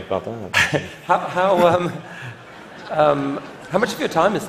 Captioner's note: laughter